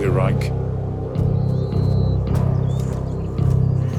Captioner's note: birds chirping